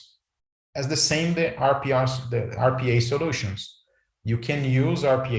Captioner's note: murmurs